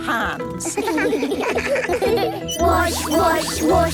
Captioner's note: children giggling